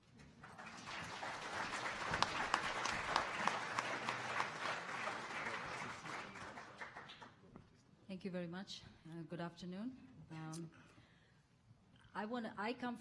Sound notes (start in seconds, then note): 1.9 audience applauding